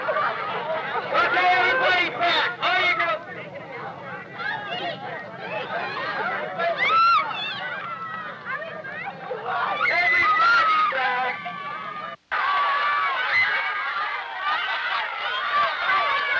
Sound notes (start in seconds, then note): 1.2 man speaking through a megaphone; 3.3 crowds cheering; 9.4 man speaking through a megaphone; 11.6 crowds cheering